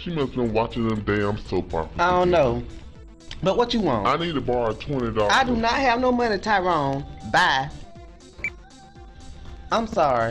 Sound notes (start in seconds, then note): 8.5 phone beeps; 9.6 upbeat music